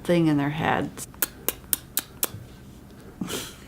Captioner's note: kissing noises